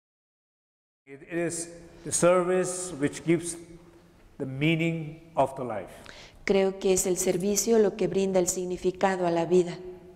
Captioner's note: Spanish